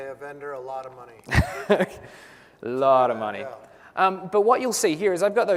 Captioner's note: laugh